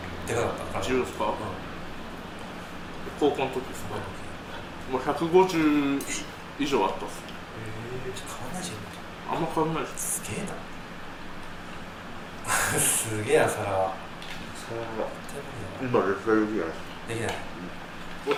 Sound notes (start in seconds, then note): 12.4 laughs